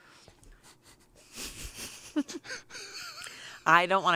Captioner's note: chuckle